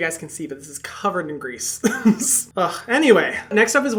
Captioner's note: laughs